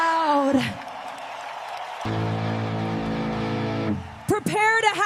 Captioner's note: applause and cheers